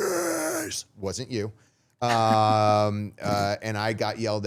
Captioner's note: chuckling